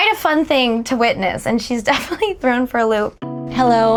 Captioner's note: laughing